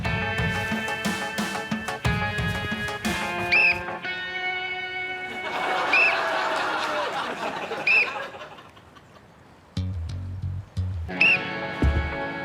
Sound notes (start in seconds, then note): 0.1 blows whistle; 5.8 whistle blows; 7.8 blows whistle; 9.3 blows whistle